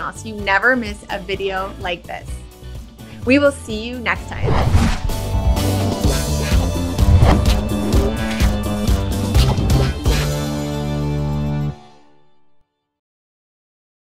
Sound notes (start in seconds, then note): 3.7 upbeat music; 4.3 air whooshing